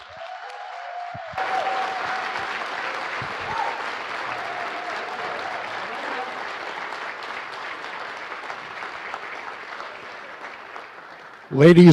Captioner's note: applause